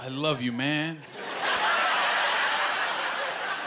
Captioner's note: laughter